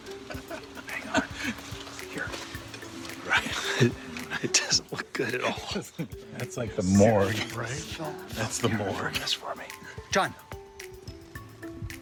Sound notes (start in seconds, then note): 0.0 chuckling; 3.1 laughs softly